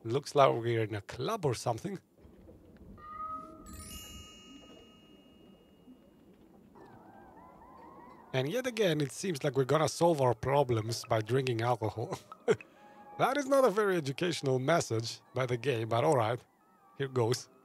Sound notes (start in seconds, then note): 11.9 laughs